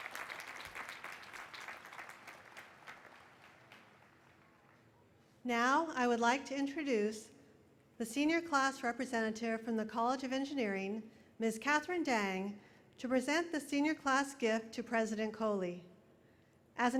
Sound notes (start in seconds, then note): 2.7 applause